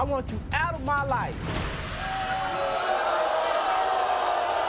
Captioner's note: audience booing